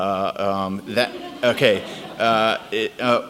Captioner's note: audience laughs